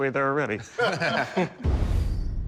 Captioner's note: laughter